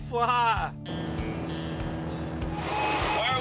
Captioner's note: plane zooming along